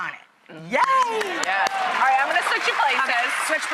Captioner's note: applauding